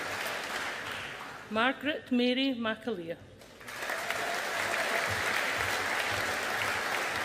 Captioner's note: audience applauding